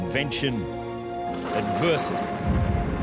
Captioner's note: wind howls